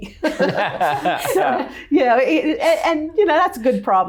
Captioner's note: laughing